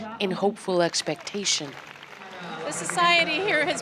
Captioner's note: applause